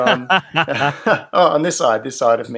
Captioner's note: laughs